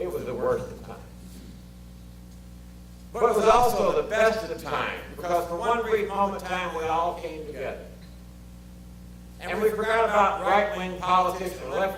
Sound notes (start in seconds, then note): none